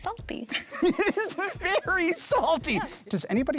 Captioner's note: laughing